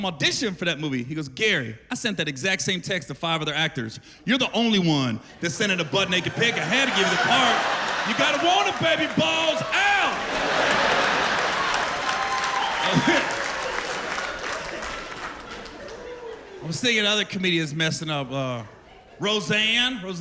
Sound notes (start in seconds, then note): 10.0 laughter